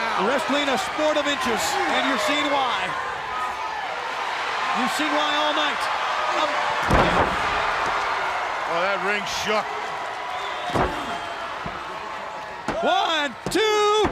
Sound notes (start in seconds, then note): 6.5 crowd cheering